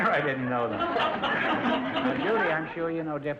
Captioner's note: audience laughter